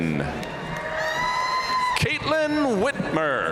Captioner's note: audience cheering and applauding